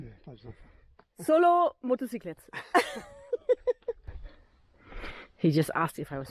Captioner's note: laughing